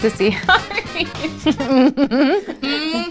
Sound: laughing

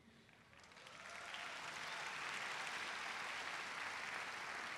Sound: crowd applauding

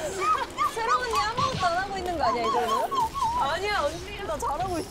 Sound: hitting the ground

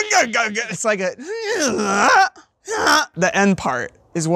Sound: imitates malfunctioning car

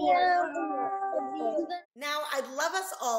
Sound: murmurs

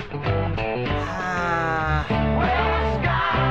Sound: groaning

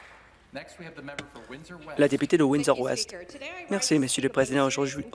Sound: applause

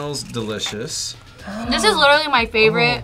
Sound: gasps

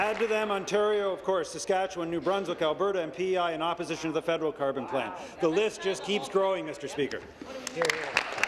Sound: applause

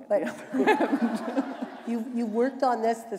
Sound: laughter

